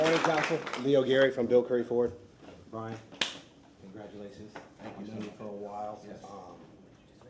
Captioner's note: applause